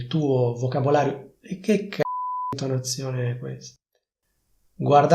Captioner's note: beep